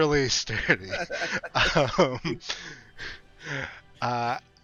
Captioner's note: chuckles